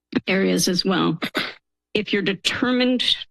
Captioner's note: clears throat